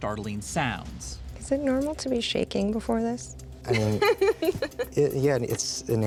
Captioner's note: laughs